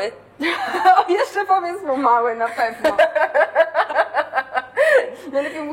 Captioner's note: laugh